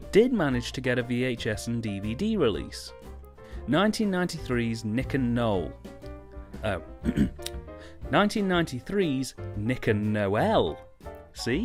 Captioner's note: ahem